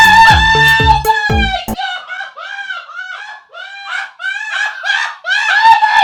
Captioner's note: screams